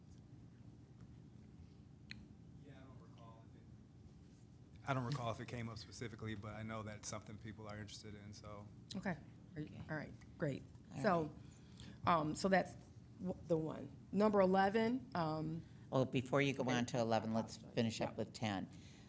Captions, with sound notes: (faintly speaking) - I don't recall if it came up specifically, but I know that's something people are interested in, so. - Okay, all right, great. So, that's the one. Number 11. - Well, before you go on to 11, let's finish up with 10.